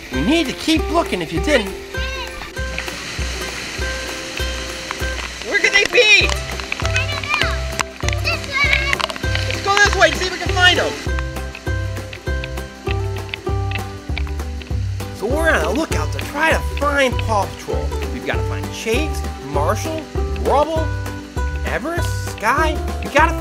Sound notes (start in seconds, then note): 9.6 voiceover; 13.1 upbeat music